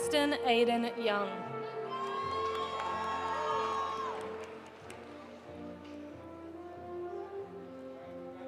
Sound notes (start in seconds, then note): 1.9 audience cheering; 1.9 audience applauding